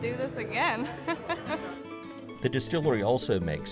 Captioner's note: laughs